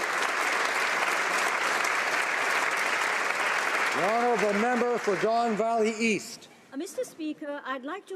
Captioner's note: applause